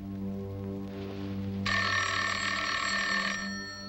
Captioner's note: ringing phone